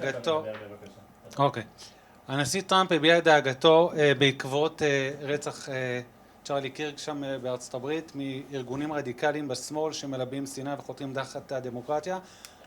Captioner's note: in Hebrew